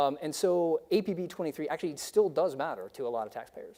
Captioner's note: none